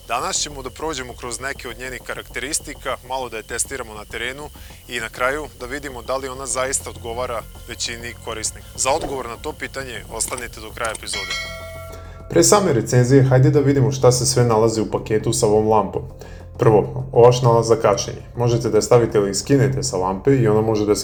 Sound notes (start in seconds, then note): 11.8 bells